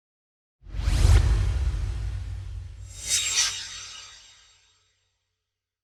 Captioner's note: swoosh